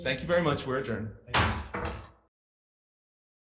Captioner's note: gavel bangs; silence